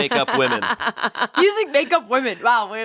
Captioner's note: laughing